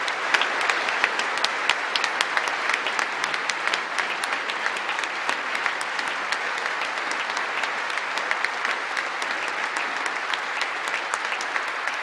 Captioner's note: applause